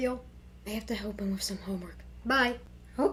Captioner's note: whispers